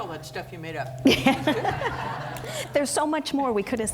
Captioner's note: laughing